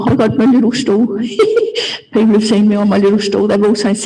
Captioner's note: laugh